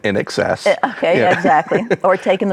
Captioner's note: laughs